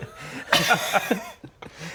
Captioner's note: mature laughter